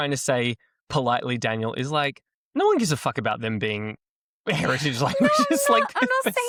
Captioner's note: laughs